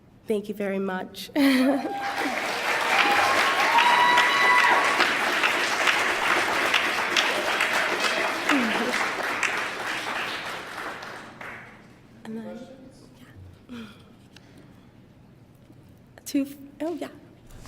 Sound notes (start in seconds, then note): 1.7 applause